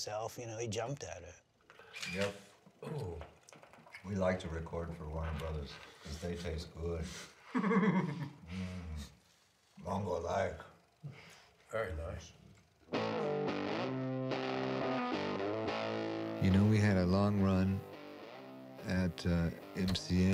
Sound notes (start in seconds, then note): 7.4 laughs